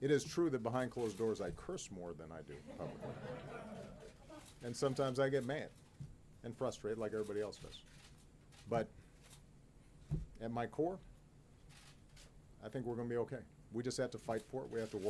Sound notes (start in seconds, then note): 4.2 laughter